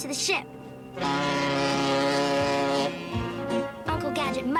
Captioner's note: honk